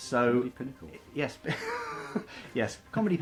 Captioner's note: laughs